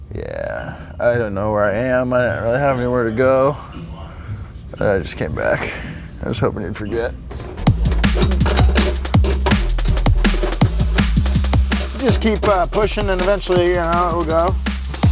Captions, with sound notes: - Yeah, I don't know where I am, I don't really have anywhere to go. I just came back. I was hoping you'd forget. (fast-paced music) (line rustling) Just keep pushing and eventually you know how it'll go.